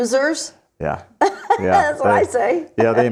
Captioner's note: laughs